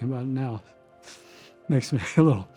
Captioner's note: sniffling